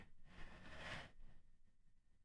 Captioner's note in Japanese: 息を吸い込む音